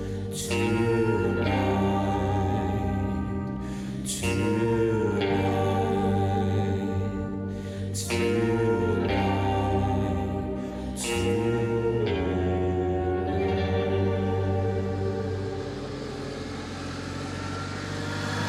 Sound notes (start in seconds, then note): 14.8 engine rumbling